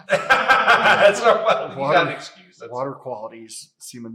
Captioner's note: laughs